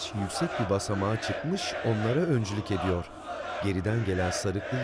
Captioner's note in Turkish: Hep bir ağızdan